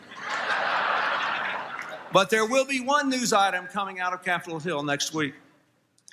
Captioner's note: laughter